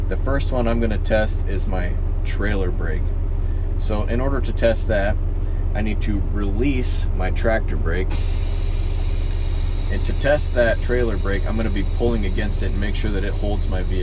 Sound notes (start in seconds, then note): 8.1 air brakes releasing